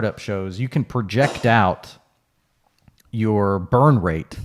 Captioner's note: sneezes